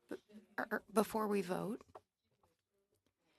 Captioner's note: speaking French